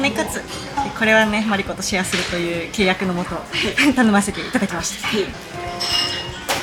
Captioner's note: laughs